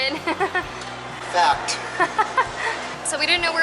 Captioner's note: laughter